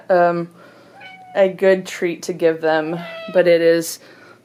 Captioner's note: cat meowing